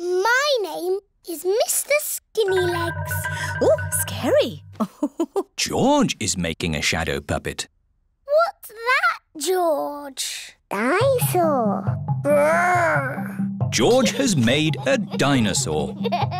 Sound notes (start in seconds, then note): 4.7 laughs